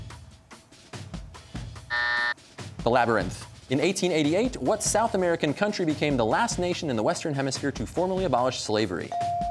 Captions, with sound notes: (buzzer) The Labyrinth. In 1888, what South American country became the last nation in the Western Hemisphere to formally abolish slavery?